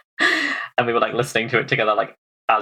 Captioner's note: laughs